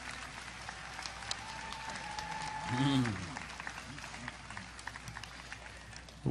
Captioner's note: audience applause